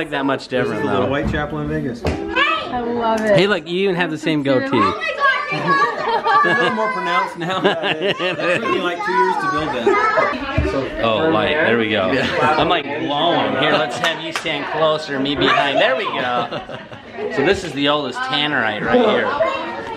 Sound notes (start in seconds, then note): 4.7 kids yelling; 7.9 chuckling